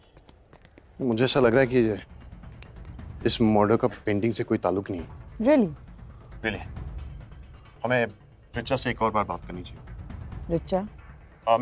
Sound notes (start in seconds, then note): none